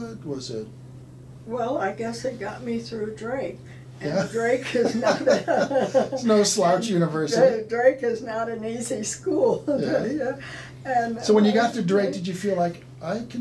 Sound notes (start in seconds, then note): 4.6 laughing